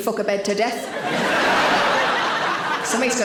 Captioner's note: audience laughing